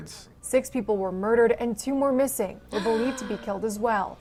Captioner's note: gasps